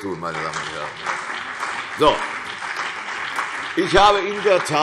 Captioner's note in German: Beifall CDU und BÜNDNIS 90/DIE GRÜNEN